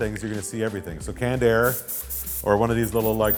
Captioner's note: air sounds